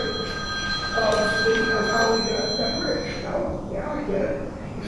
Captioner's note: phone ringing drowns out speaker